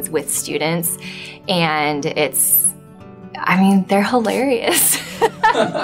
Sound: laughs on screen and off screen

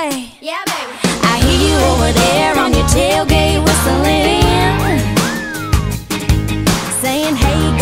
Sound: whistle

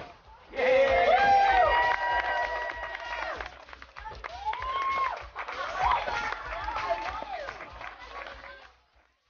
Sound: cheers

